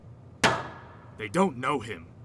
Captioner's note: glass bang on table